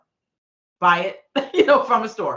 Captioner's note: laughing